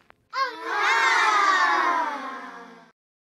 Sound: crowd awing

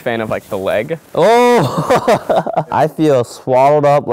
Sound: laughs

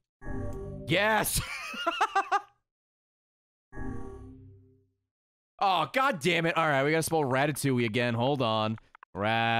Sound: laughs

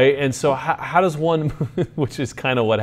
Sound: laughs

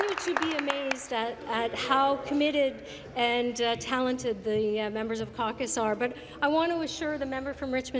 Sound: applause

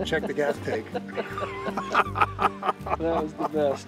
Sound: both laughing

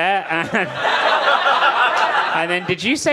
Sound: audience laughing

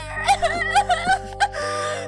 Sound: crying

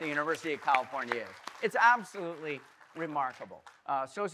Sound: audience applauding

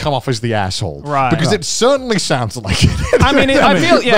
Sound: laughs

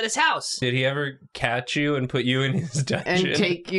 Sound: chuckles

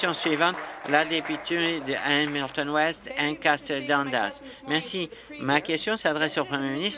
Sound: applause

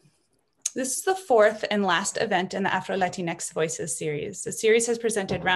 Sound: repeats in Spanish

